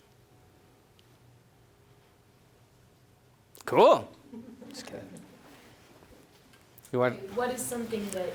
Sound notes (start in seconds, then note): 4.2 people chuckling